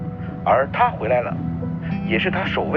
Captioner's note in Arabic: مذياع